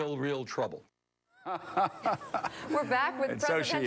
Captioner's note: laughs